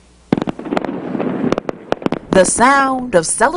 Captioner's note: nat sound firework